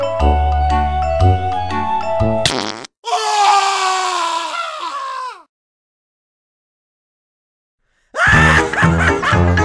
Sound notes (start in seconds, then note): 2.2 farts, screams in pain; 3.0 scream; 8.2 laugh